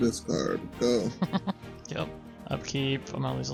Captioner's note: laughs